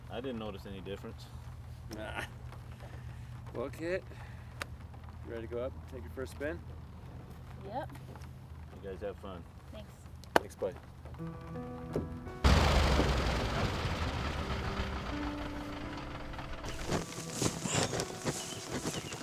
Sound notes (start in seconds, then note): 11.2 soft music; 12.5 whirring